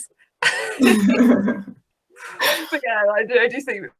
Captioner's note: laughing